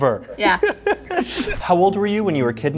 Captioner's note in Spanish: risas